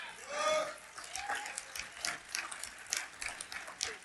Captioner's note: crowd cheering